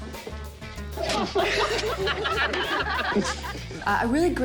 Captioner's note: all laugh